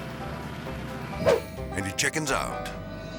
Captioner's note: transition whips